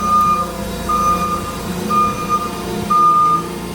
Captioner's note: beeping